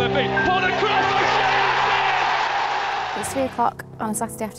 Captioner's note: cheering